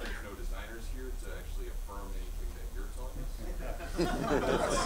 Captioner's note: laughing